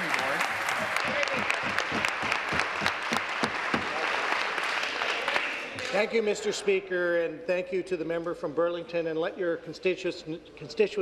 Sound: applause

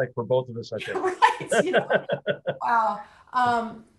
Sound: laughter

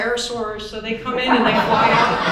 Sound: audience chuckles

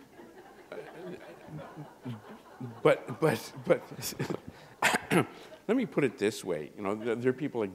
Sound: chuckle

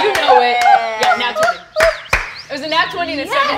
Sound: clapping

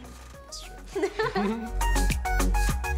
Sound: chuckling; upbeat music

